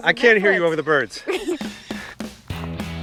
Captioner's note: Lisa laughs; birds squawking; lively music